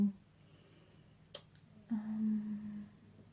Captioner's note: clicks tongue, hums